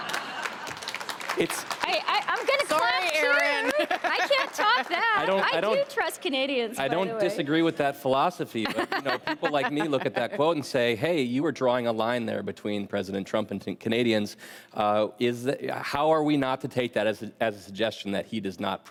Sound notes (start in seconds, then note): 3.6 laughter; 3.8 applause